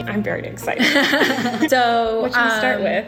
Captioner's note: laughs